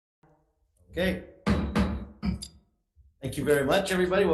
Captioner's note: gavel slamming